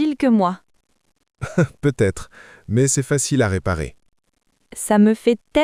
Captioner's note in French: rire